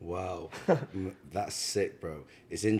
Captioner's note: laughs